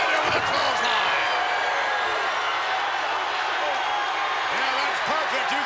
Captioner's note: crowd cheering